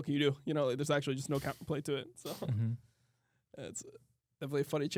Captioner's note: laughs